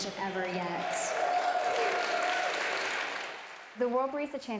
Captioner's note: cheering; applause